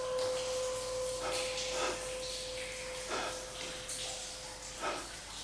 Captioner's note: panting